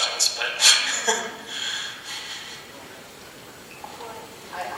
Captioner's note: laughs